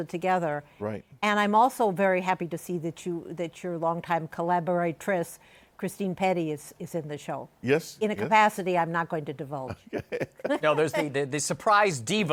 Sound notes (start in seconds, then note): 9.6 laughter